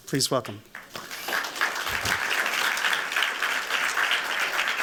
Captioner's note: applause